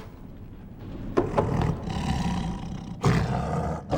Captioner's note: growling